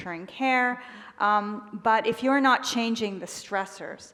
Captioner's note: none